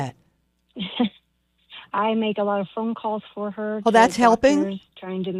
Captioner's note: laughs